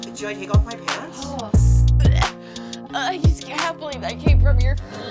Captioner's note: gagging